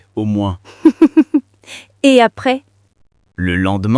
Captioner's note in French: rire